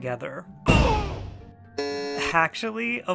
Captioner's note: slam; agonizing grunt; buzzer